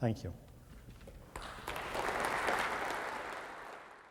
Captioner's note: applause